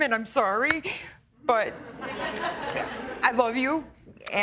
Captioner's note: laughter